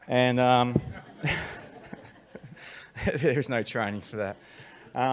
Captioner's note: laughs